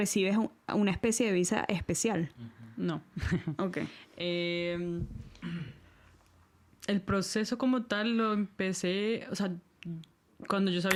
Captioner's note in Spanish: carraspeo